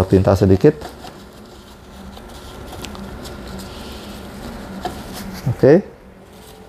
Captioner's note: tissue noise